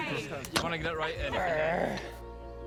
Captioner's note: groaning; soft music